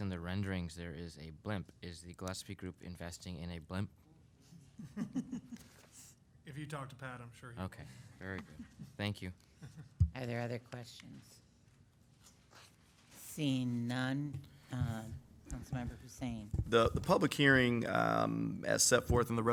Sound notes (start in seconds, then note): 4.8 members laughing